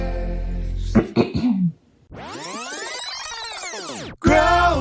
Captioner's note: clears throat